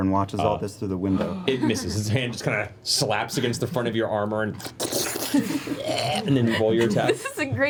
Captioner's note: slurping, groan